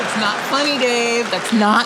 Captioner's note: audience laughing